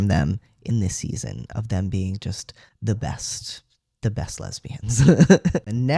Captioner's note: laugh